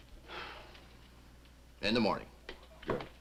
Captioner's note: sighs